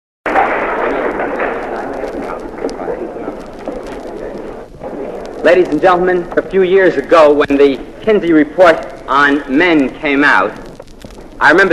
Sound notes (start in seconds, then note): 0.3 applause